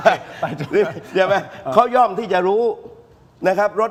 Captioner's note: laughter